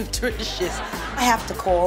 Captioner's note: audience laughing